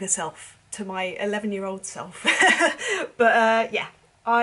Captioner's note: laughing